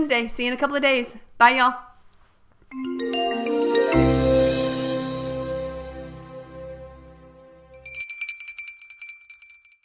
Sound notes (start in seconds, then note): 2.7 upbeat music; 7.7 bell clanging